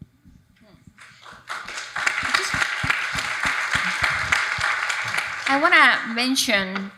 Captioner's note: audience applauding